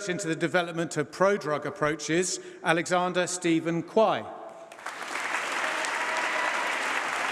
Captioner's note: applause